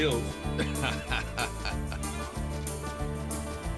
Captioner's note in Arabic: يضحك كيسي